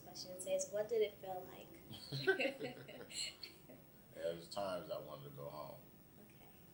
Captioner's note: both laugh